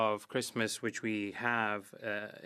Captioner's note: speaking French